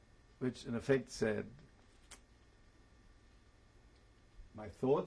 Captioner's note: pauses for 3 seconds